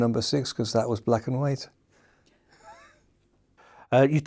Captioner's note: chuckles